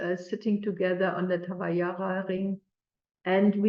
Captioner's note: non-english speech